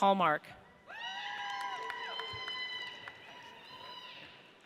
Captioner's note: audience cheers